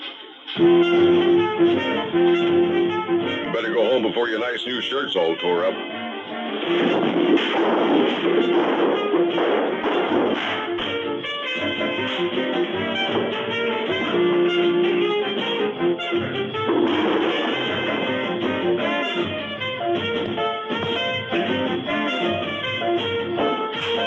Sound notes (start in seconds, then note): 0.2 upbeat music begins again; 5.6 upbeat energetic music continues; 16.0 gun rattles; 18.3 upbeat energetic music continues